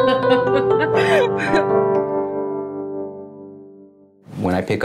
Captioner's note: laugh